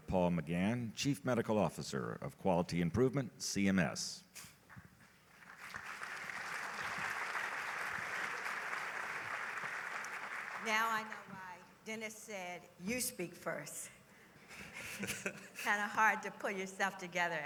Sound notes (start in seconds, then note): 5.3 applause; 14.5 laughter